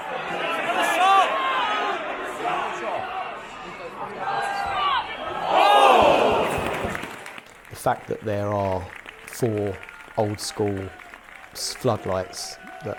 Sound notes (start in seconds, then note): 0.0 fans shouting; 6.0 fans groaning; 7.2 fans clapping